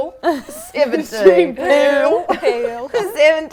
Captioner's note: liverpool accent